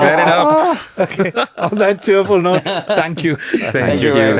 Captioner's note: laughs